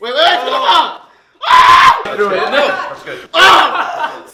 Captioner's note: screams